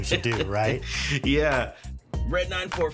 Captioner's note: laughghs